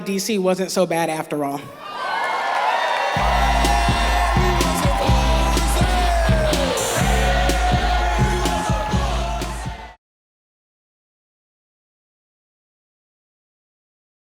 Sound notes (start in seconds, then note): 2.0 applause